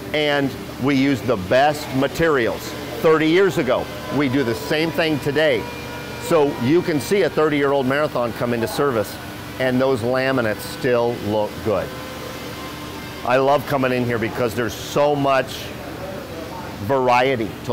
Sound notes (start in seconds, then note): none